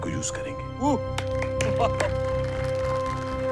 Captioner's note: applauses